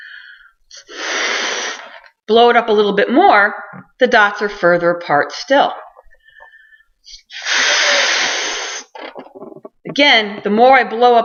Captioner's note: sound of balloon being blown up; sound of balloon being blown up